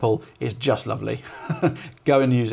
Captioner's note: laughing